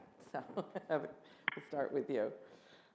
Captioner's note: laughs